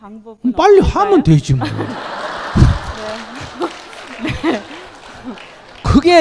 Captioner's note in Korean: 질문자/ 청중 웃음